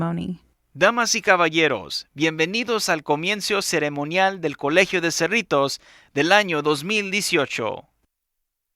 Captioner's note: speaking Spanish